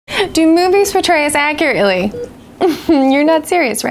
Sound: laughs

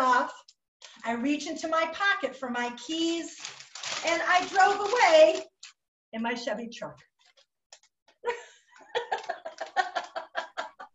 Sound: laughing

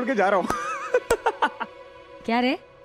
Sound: laughing

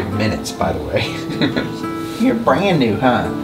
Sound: chuckles

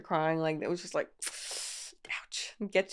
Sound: inhales sharply

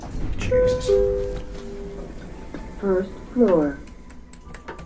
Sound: chime

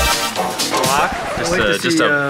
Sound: record scratch

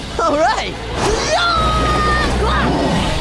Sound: grunting

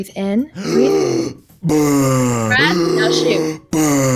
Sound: deep breathing

